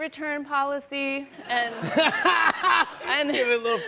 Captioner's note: laughter